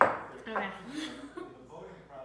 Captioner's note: laughs